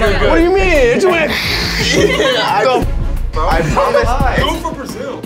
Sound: hissing sounds

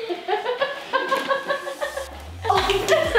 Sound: laughing

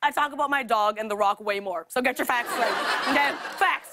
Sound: laughter

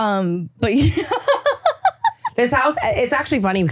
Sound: laughing

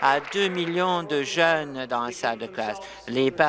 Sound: applause

